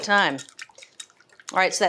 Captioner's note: mixture sloshing